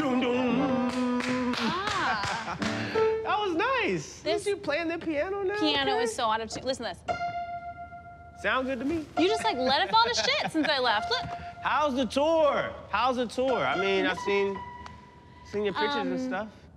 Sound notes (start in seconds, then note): 0.8 clapping; 7.2 piano key pings